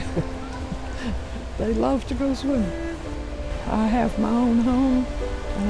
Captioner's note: laughing